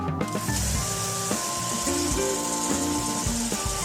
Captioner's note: belt sander sound